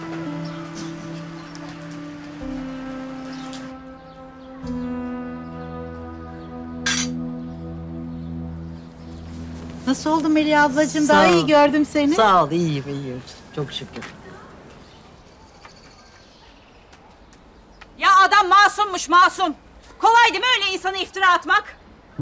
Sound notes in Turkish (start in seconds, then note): 14.6 Kuş cıvıltısı sesleri